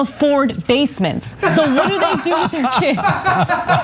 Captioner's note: laugh